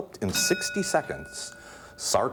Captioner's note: ding